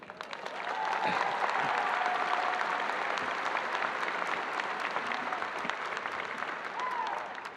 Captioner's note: audience applauding and cheering